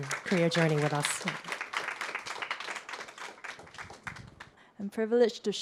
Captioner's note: audience applause